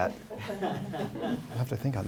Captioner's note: laughter